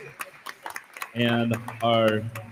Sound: attendees applauding

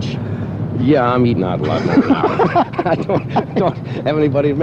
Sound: laughter

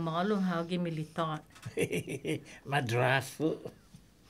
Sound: laughs

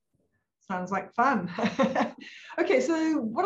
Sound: laughs

